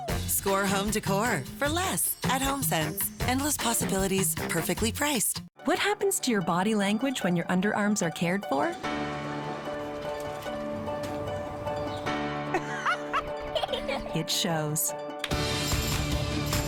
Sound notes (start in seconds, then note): 12.5 laughing